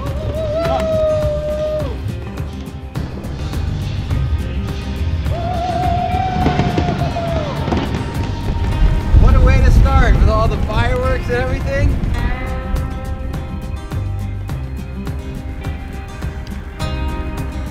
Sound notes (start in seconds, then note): 5.8 hollering; 6.7 fireworks popping